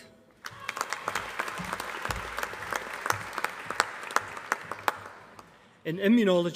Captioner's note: applause